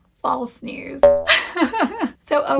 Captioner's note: laughing